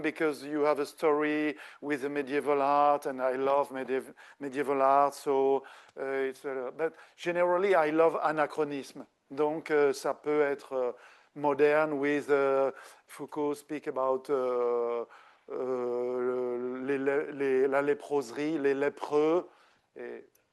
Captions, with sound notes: because you have a story with medieval art, and I love medieval art. So it's, but generally, I love anachronism [speaking French] modern with Foucault speak about [speaking French] lepers.